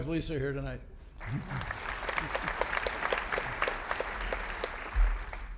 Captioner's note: audience applauding